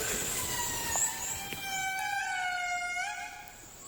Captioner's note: lemur cry